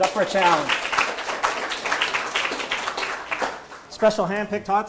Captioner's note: audience applauding